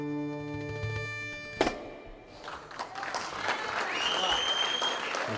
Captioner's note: cheering and applause